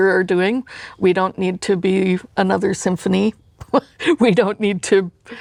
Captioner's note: laughs